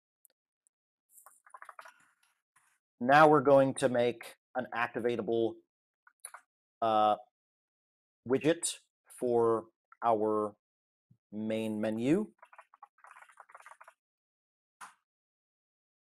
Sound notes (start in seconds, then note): none